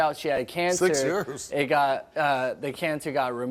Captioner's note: laughs